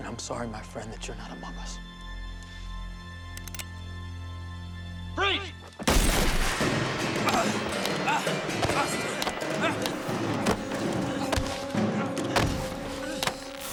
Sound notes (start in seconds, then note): 5.8 gunshot; 7.9 grunting